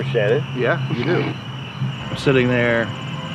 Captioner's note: chortle